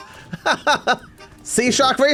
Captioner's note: laughs